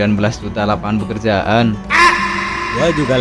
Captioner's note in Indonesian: berteriak